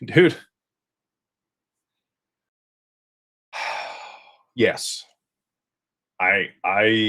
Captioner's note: sighs